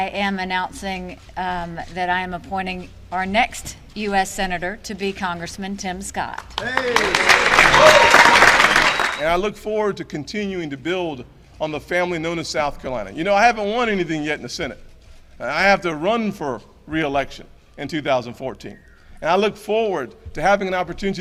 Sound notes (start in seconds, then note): 6.4 applause